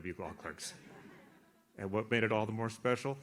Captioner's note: audience laughs